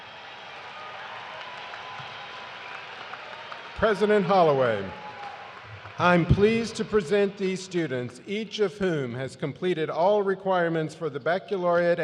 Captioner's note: cheers and applause